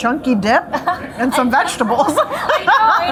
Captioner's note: laughing